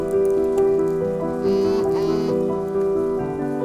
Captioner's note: cell phone buzzes